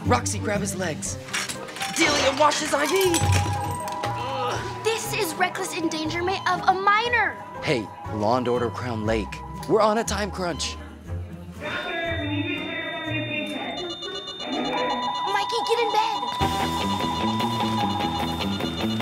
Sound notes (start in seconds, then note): 12.0 machines beeping; 16.2 dramatic music